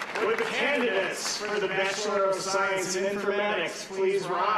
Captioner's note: cheers & applause